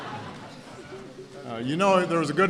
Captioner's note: laughter